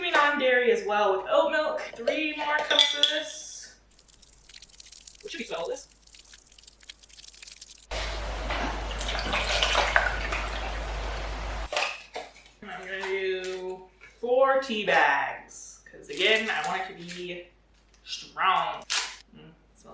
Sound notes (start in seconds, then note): 3.9 liquid pouring sound effect; 7.9 oat milk sloshing into container